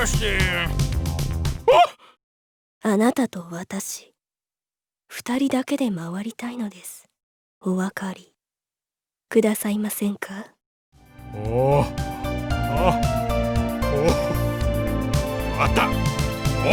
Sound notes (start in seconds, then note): 1.8 gasp; 3.0 seductive whisper